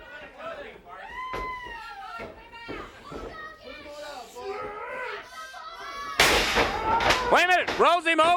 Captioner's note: crowd chatter